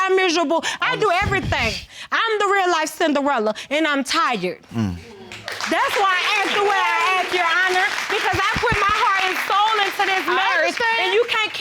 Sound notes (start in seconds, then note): 5.3 audience applauding